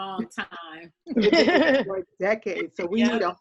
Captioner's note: all chuckling